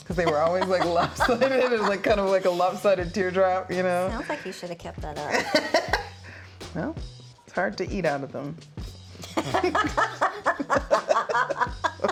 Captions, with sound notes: 'cause they were always like lopsided, it was like kind of like a lopsided teardrop, you know? - Sounds like you should have kept that up. - (laughs) Well, it's hard to eat out of them. (both laughing)